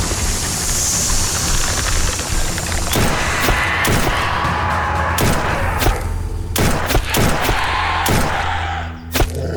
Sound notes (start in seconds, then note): 3.0 gunfire popping